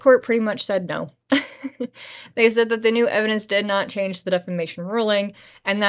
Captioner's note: laughter